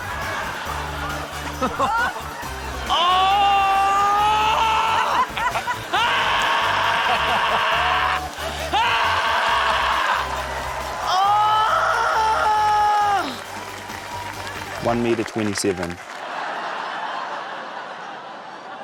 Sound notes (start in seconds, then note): 0.1 laughter; 5.9 roars; 16.2 laughter